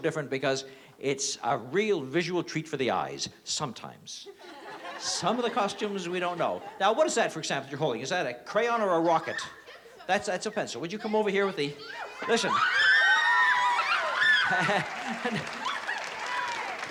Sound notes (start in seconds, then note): 11.7 excited screaming; 14.1 chuckles